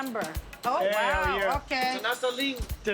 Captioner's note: Speaks Tagalog